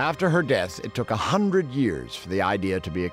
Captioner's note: none